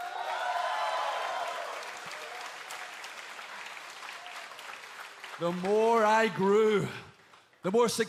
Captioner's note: cheers and applause